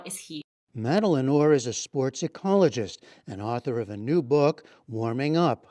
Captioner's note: voice-over